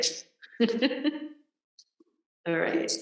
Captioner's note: laughs